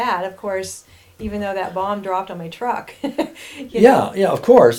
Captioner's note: laughing